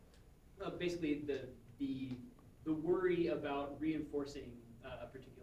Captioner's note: voiceover